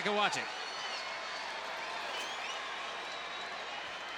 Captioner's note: crowd cheering